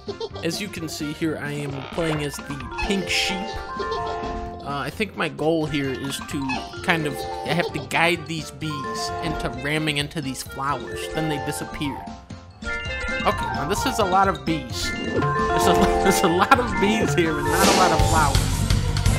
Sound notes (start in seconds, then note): 15.9 chuckle; 18.5 loud music